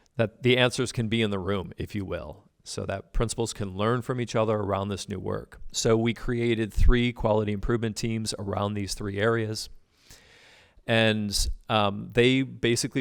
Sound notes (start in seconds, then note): none